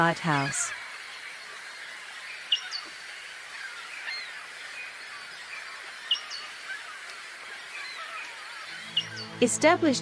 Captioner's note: seagulls sound